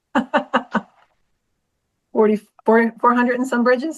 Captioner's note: laughs